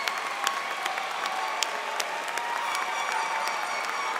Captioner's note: cheers and Applause